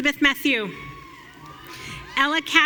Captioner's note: audience cheering